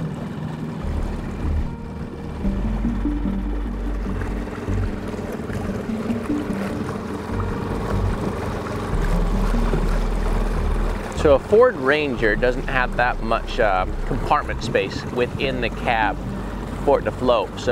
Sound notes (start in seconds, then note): 7.8 engine chugging; 7.8 somber synth music